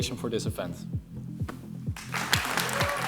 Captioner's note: applause